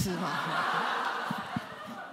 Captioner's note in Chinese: 笑聲